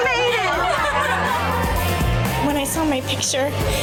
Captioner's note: women cheering